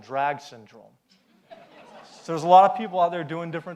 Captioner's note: audience laughs